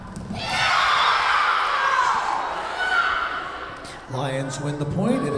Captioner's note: Lions cheering